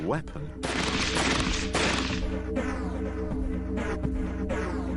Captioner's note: gunfire